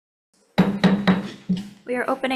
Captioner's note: gavel clanking